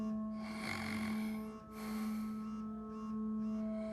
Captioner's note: snoring continues